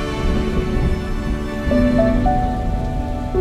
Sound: thunder and rain sounds

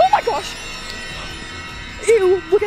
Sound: dramatic bells ringing

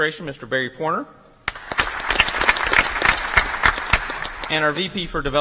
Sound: applause

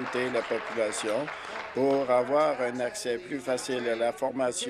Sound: applause

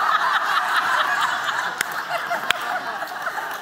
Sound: laughter

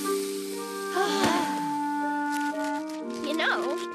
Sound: sigh of relief

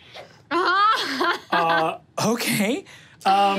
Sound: laughs

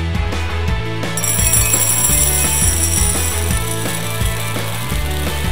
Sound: candies clinking

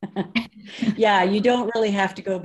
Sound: laugh

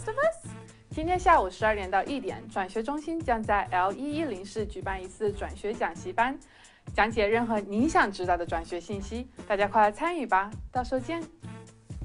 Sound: Mandarin

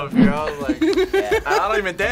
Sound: React laughs

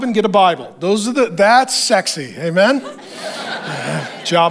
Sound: congregation laughs

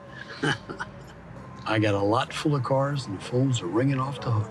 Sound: chuckles

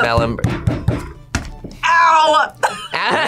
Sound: table thumping; both laugh

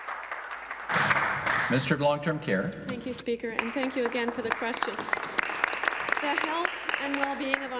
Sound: applause

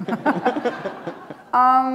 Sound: laughter

